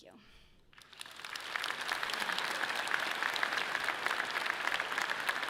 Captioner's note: audience clapping loudly